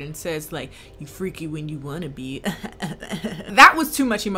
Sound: laughs creepily

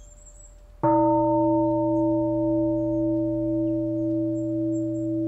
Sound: bell

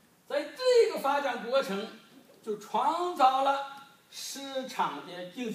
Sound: speaking foreign language

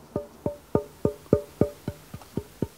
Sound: thuds

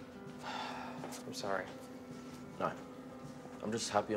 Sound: sighs

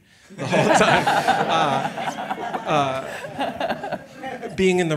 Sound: all laughing

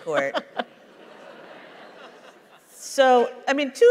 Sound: laughter

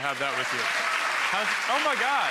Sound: applause

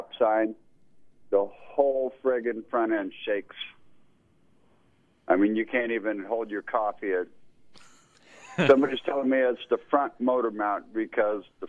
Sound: both laugh

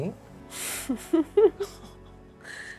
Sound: laughs

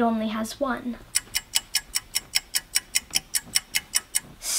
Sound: clock ticking

